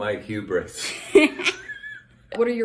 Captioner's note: laughter